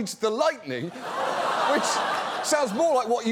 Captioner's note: audience laughs